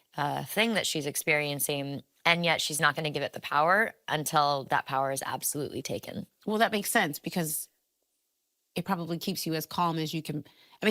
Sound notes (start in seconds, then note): none